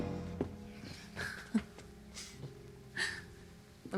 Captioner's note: chuckles